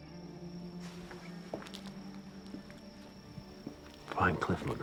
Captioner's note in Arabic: خطوات